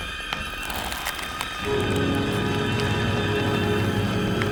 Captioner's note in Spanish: crujimiento de huesos